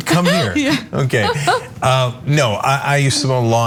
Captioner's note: laugh